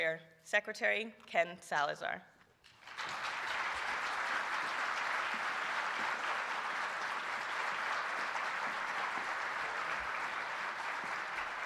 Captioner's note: applause